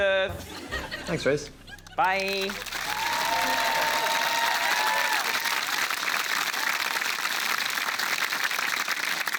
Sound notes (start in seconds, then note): 2.0 cheering, applause